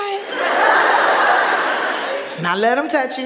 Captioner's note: audience laughing